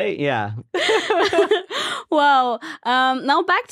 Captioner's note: laughing